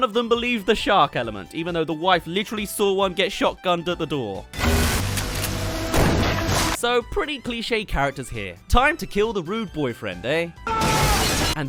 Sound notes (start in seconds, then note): 5.9 fwomp. Bang; 10.6 ahhh!